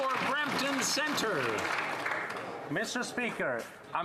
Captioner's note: applause